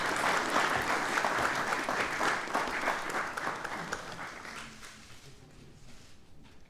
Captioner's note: applause